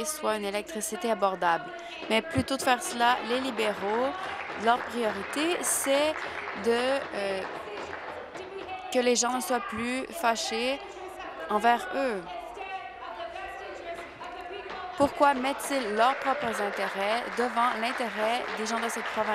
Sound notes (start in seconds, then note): 8.6 applause